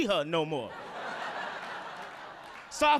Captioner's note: audience laughing